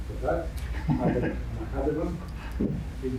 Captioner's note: laughs